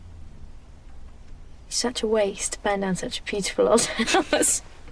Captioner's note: giggles